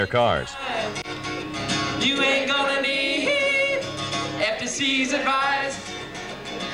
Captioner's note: background talking